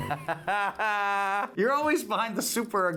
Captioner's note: laughs triumphantly